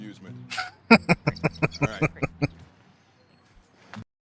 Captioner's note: laughing